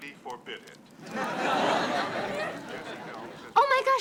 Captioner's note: audience laughing